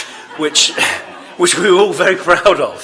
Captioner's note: laughter